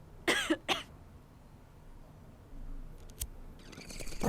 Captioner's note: βήχας